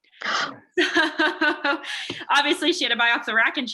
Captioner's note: laughs